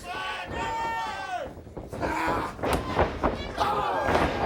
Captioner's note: crowd cheering